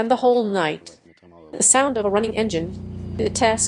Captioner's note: the sound of a running engine